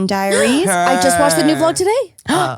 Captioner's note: gasps